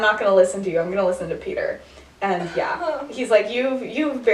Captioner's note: sighs